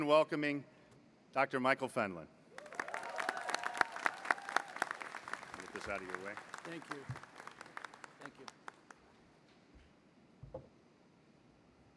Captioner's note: applause